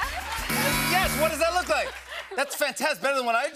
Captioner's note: buzzer